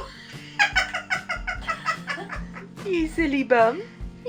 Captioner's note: laughing